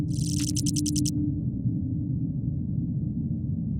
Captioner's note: text chirping